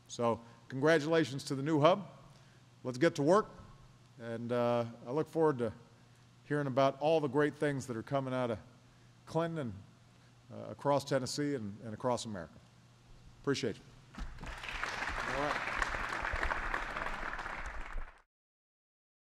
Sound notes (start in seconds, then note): 16.2 applause